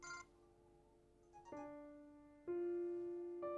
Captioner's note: gentle music; phone ringing; phone chimes; birds chirping; gentle music